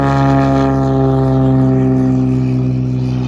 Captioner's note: engine noise